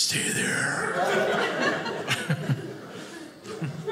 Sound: audience laughing

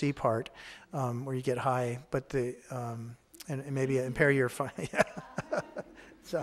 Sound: laughs

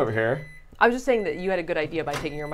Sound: microwave beeping

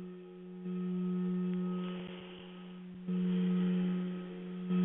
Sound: vibrating tone

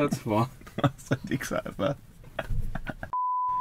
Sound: laughter

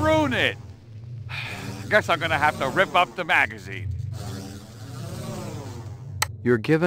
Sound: sigh

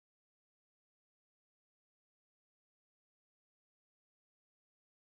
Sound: none

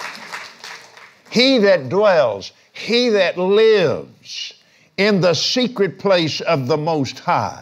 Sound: applauds

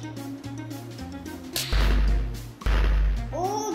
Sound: clap

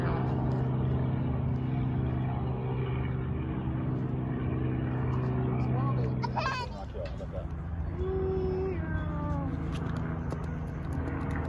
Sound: airplane noises

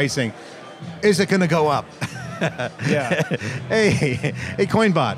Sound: laughs

